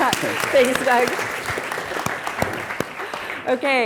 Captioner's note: audience applauds